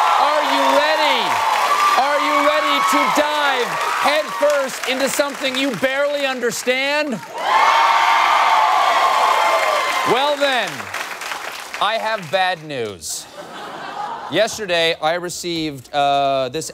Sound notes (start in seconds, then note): 7.1 cheers